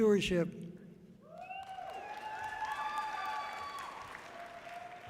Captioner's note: audience cheering loudly